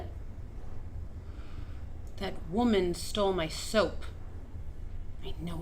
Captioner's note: inhales